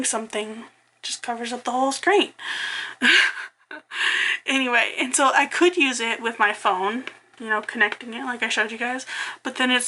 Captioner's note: laughs